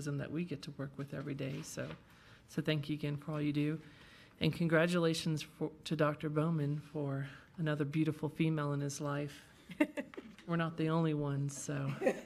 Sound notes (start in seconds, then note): 9.8 laughing